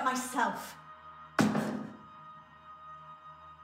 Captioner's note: door bangs; suspenseful music